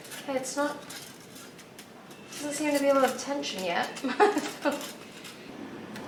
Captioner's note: laughs